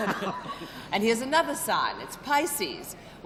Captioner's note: chuckling